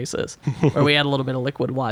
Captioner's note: laughs